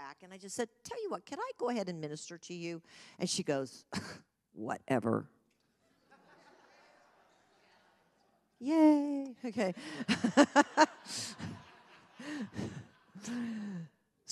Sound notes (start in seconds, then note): 5.8 congregation laughs; 9.7 laughs